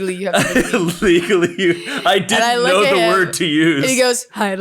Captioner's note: laughing